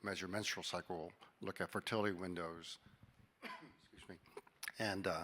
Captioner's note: coughing